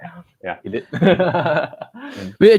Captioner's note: laughter